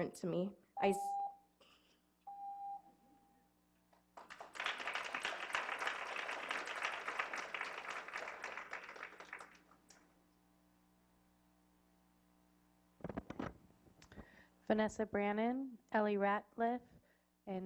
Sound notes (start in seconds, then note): 4.0 applause